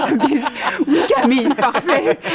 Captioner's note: laughter